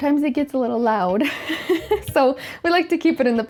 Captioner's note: laughs